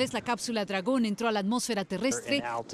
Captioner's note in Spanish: HABLAN EN INGLéS